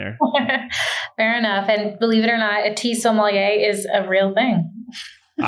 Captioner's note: laughs